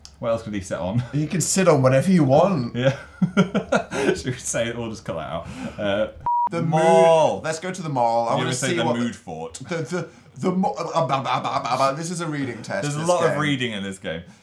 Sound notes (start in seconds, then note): 2.8 laughs